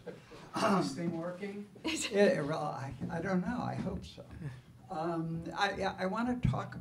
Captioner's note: laughter